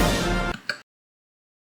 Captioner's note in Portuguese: Click